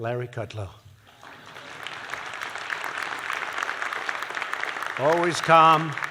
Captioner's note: applause